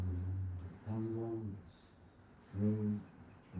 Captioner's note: hums